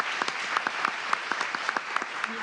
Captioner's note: applause